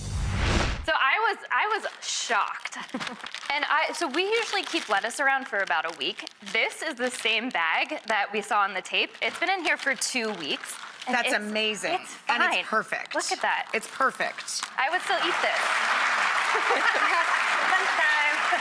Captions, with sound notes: So I was shocked, and so we usually keep lettuce around for about a week. This is the same bag that we saw on the tape. It's been in here for two weeks. That's amazing. It's fine. And it's perfect. Look at that. It's perfect. I would still eat this. (audience applauding) (laughing)